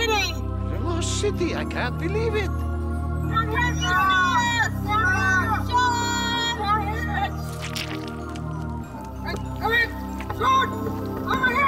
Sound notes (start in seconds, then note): 4.7 yelling